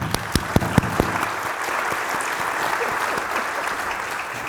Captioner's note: audience applauding